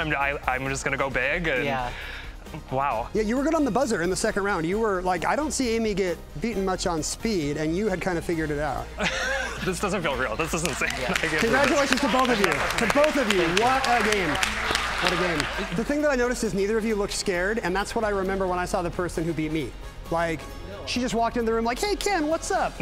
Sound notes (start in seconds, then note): 9.0 laughs; 15.2 crowd applauding